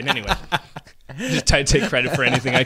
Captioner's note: laughing